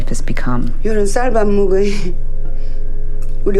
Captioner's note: soundbite of tv show, "pachinko"